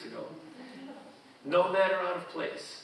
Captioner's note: audience chuckling